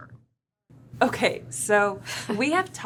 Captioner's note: chuckling softly